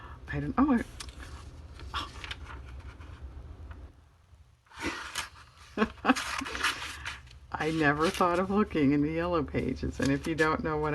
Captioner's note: laughs